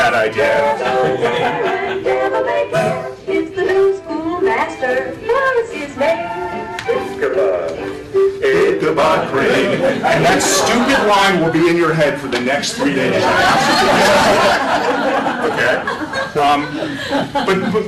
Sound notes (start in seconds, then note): 12.9 laughter